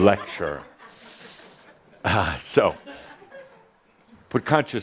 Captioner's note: some laughter